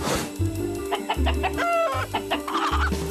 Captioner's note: chicken clucking